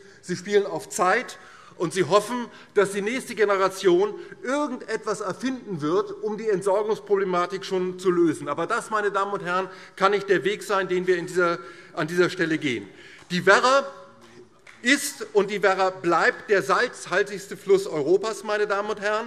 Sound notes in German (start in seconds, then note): 14.2 Beifall DIE LINKE